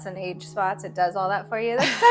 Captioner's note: laughing